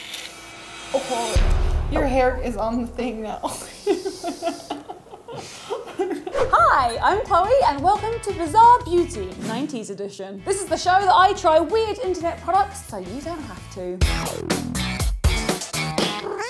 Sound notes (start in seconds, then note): 0.4 suspenseful music; 3.4 laughter; 15.0 lively music